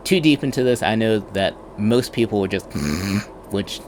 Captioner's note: snores